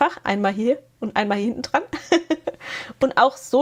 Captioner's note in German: gelächter